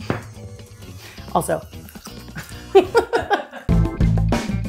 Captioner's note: crunches bacon; funky music